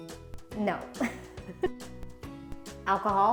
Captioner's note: laughs